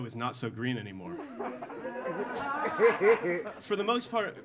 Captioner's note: audience laughing